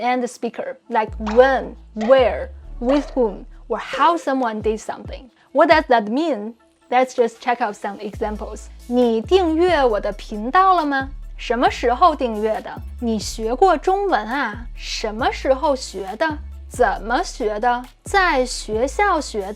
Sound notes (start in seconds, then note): 8.8 speaking in Mandarin